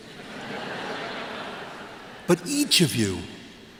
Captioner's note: laughter